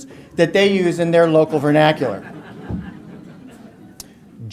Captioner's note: audience laughter